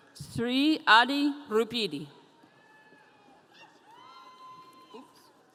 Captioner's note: audience cheering